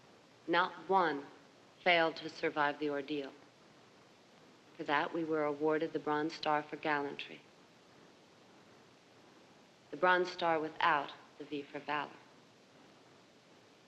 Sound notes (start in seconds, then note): none